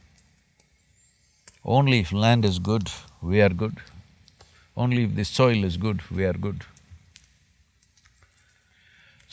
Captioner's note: none